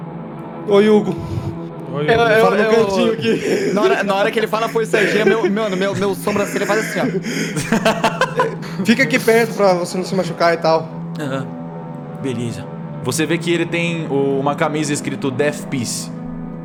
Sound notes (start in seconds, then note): 2.0 laughter; 7.8 laughs